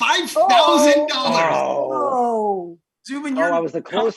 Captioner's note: groaning